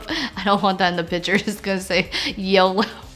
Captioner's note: laughing